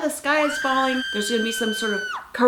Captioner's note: scream